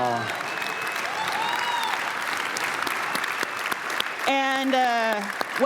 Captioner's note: applause